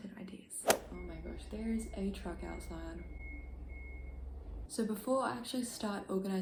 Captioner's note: truck beeping